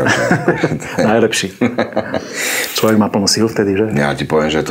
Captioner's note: laughs